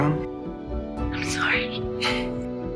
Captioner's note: voiceover; whispering